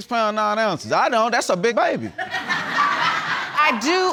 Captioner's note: audience laughs